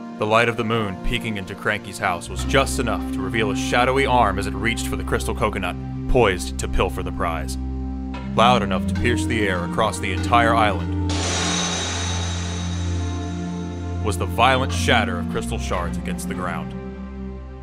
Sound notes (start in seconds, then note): 11.1 glass shatters